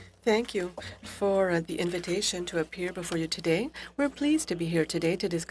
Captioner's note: speaking French